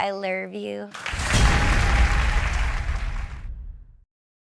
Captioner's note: applause